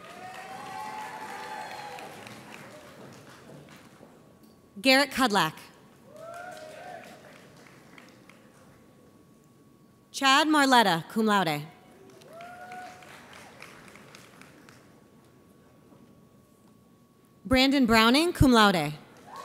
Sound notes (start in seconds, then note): 0.0 audience cheers; 6.0 audience applauds; 11.9 audience applauds